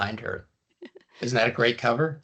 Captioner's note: chuckling